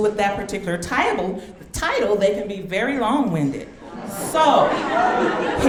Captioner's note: audience laughing